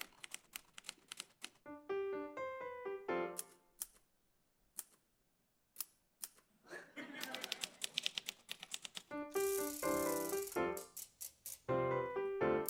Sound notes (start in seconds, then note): 0.0 rhythmic typing; 1.6 piano playing simple melody; 3.3 rhythmic typing; 7.2 rhythmic typing and rattling; 8.3 piano playing simple melody